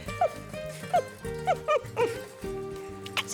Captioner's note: chuckles